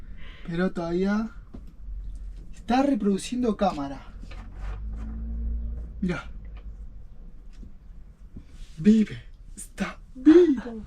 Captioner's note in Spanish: carraspeo